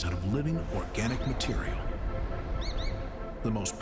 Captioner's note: bird chirping